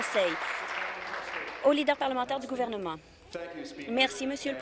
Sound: applause

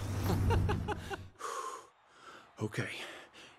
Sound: laughing

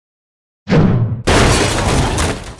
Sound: swoosh; crash

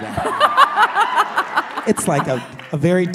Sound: laughing

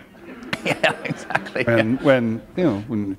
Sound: laughter

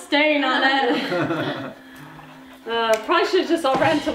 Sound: laughs

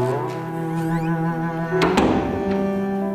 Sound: door closing

